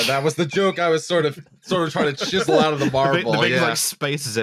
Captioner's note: laughter